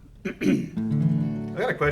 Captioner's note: clears throat; guitar notes ring